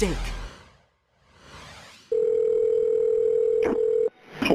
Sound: phone rings

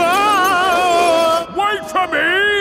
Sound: yelling

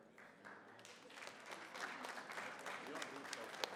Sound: applause

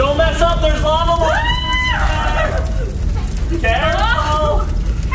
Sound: yelling

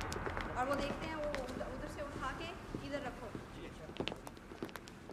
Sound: speaking foreign language

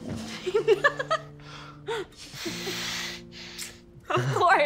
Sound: laughing

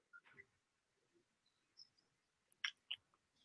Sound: pause

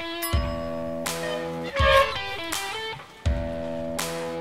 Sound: bell pings; rock music

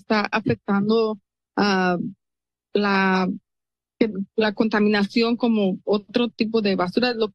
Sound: foreign language

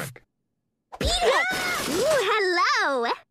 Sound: crash

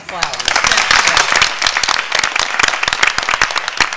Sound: applause

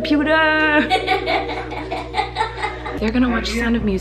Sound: laughter

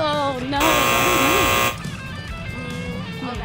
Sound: buzzer buzzing

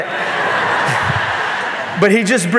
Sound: audience laughing

